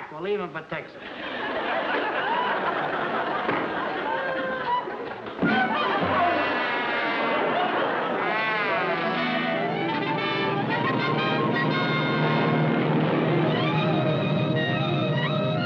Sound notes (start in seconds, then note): 5.3 smack